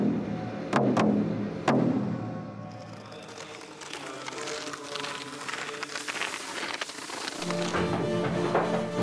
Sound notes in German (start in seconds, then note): 2.6 Knistern; 7.4 Angespannte Musik